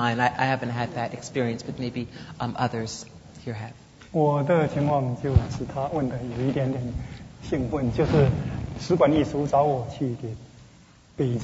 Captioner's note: speaking Mandarin